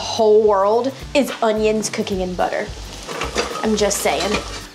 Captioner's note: onions sizzling